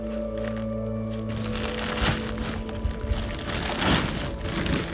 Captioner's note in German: Tasche knistert